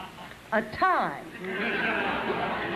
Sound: laughter

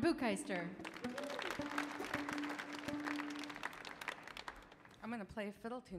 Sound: audience applauding; audience cheering

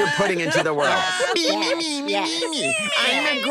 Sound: all laughing; mocking noises

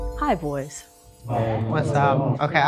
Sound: boys chattering

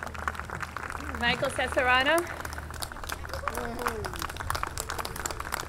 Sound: audience clapping

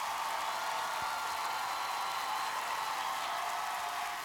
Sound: cheers and applause

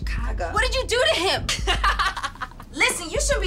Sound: laughs

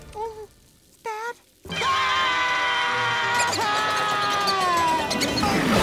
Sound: screaming

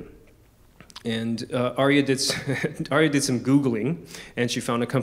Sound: chuckles

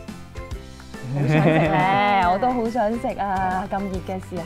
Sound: laughing

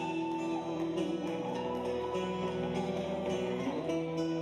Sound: audience cheering

